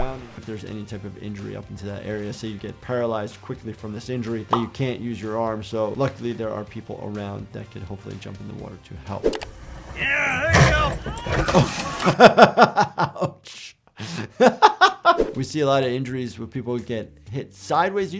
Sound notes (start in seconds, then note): 11.2 chuckling